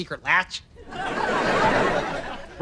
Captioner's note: audience laughter